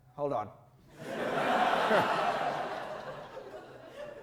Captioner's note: audience laughter